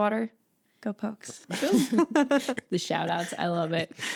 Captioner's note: all laughing